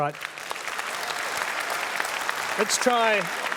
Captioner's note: applause